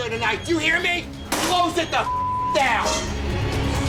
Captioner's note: beep; intense music